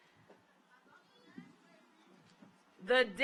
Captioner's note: overlapping chattering